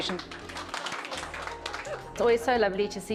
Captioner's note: applause